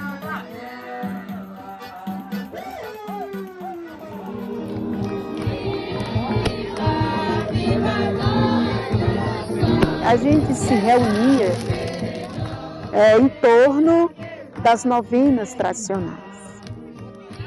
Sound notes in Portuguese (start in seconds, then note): 10.4 fogos de artifício